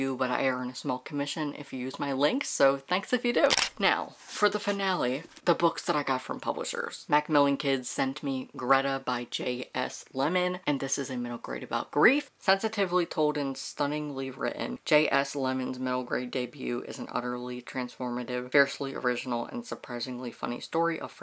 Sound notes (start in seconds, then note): 3.4 camera Shutter